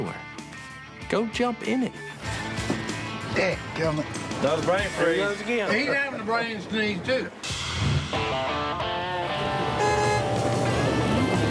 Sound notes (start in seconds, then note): 7.5 upbeat music playing; 9.3 car horn honking